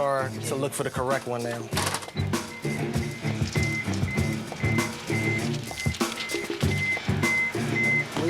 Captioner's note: beeping